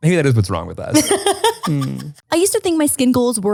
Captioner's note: laughs